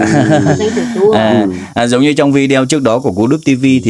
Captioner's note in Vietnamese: tiếng cười